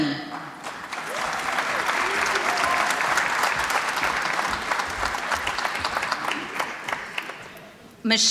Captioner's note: applause